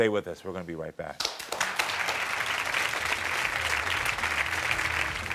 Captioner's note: crowd clapping